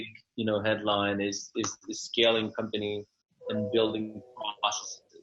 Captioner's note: audio distorted